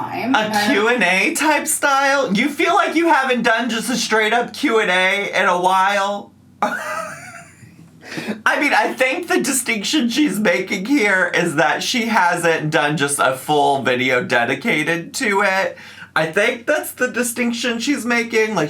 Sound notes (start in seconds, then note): 6.6 laughs